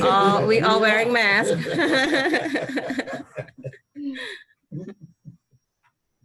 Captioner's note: audience members laughing